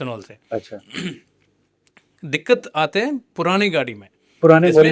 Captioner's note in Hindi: गला साफ़ करने की आवाज़